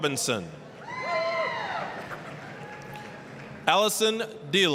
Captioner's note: applause, cheering